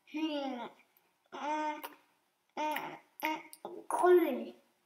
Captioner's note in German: Schmatzen